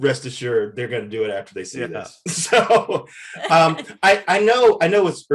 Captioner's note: Eric laughs